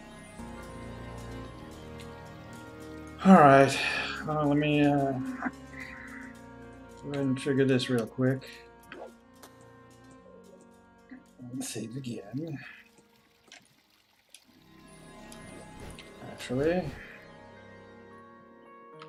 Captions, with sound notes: [sighs] All right. Well, let me, uh... ...go ahead and trigger this real quick. And save again. Actually...